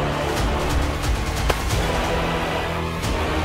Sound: thud

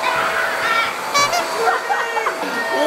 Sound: clown horn sound effet

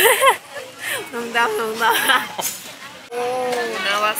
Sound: laughing

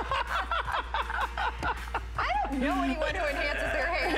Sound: laughter

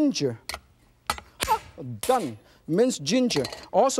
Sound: bang

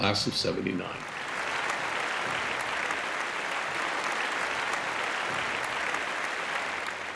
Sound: applause

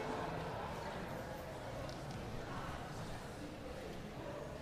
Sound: congregation chattering

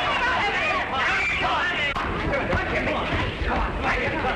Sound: fighting sounds

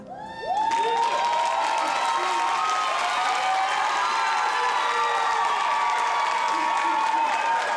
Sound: audience clapping

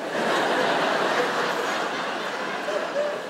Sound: laughter

